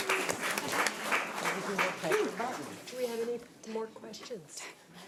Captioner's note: audience applause